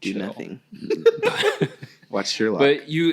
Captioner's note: laughing